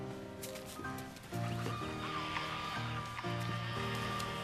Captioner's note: whirring